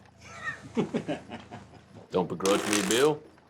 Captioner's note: laughter